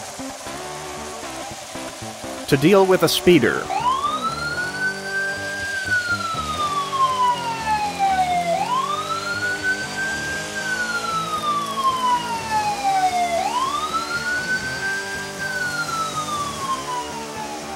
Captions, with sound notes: … To deal with a speeder… [POLICE SIREN]